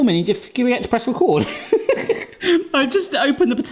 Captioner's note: laughs